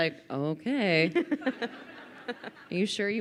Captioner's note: crowd laughing